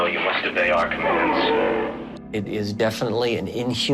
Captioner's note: Entity groans